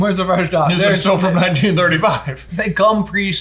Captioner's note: laughs